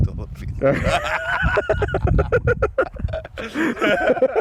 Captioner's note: both laughing